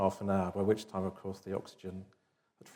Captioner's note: none